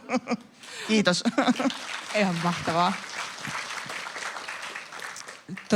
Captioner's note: naurua ja aplodeja